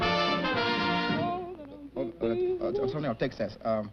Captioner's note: humming